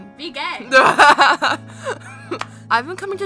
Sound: laughs

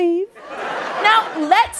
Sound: laughter

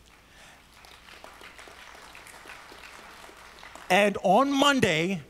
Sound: audience applauds

